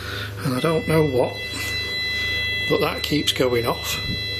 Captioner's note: machine beeping